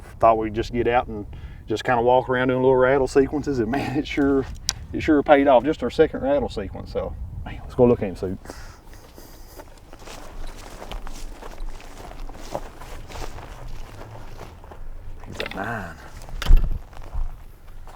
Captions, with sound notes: Thought we'd just get out and just kinda walk around and do some little rattle sequences, and man, it sure paid off. This is our second rattle sequence though. Let's go look at him, sir. (footsteps) It's a nine.